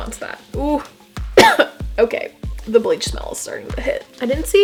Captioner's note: cough